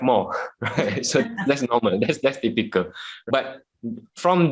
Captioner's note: laughs